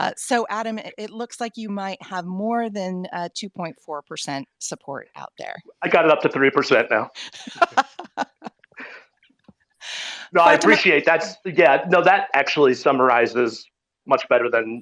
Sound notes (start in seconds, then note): 10.0 laughing